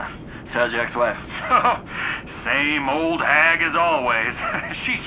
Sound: chuckles

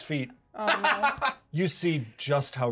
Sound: speaker laughs

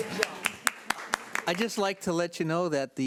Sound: audience clapping

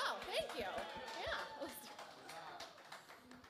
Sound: applause

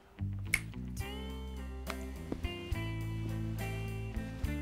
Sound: snaps fingers

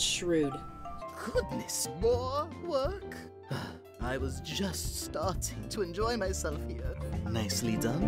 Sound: sigh

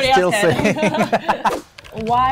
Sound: both laughing

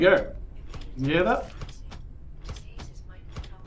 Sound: mechanical stamping

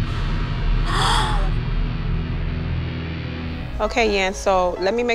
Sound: gasps

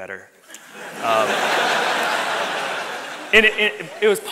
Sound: audience laughs

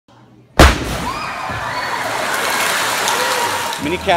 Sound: loud boom

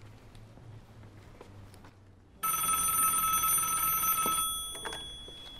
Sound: phone ringing

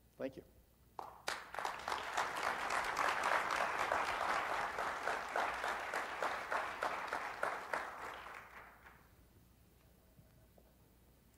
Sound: audience applauds; silence

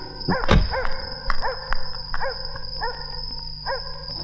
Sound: dog Barking In Distance

